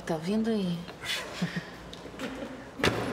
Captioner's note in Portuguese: risos